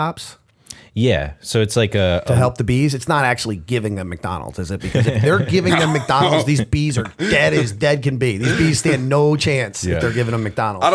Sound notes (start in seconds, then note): 4.8 laughter